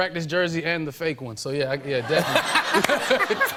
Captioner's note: laughter